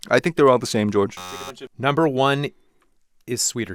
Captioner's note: buzzer beeping